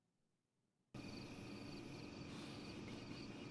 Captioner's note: crickets chirping